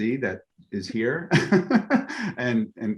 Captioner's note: laughs